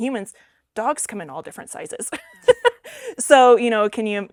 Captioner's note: laughs